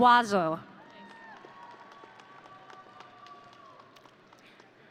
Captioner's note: audience cheering